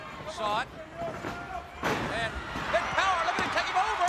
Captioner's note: crowd chatter